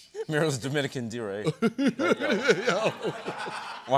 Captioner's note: laughter